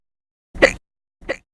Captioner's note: hic!